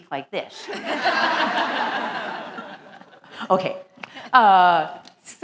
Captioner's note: laugh